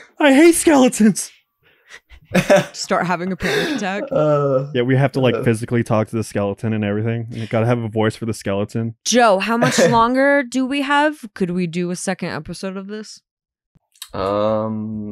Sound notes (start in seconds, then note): 2.2 cracks up; 9.5 laughs